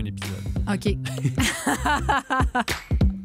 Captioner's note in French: rires